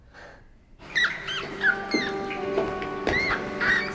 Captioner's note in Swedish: gnisslande